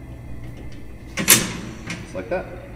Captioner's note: metal clanging